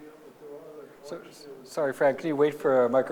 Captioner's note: speaks off microphone